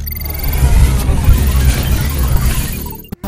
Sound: whirring and whooshing

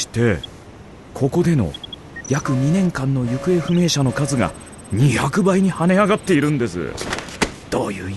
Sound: device beeps

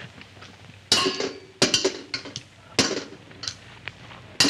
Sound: metallic clanking

